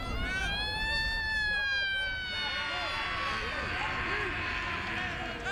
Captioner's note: fire-engine siren wails